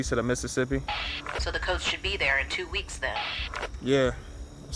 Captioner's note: radio